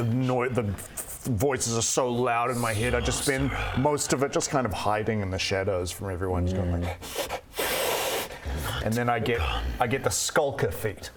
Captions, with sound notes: the noise, the voices are so loud in my head - I just spend most of it kind of - ~SORCERER~ hiding in the shadows from everyone just going like *hiss hiss* ~NOT GONE~ And then I get the skulker feat